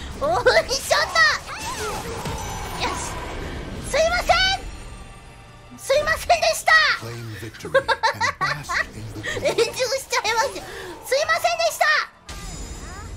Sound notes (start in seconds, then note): 9.2 laughing